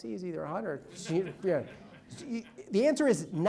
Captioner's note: audience laughs